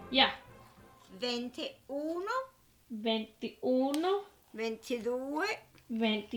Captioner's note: both speaking in foreign language